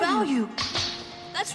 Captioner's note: crack